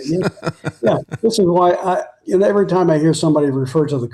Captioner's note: laughing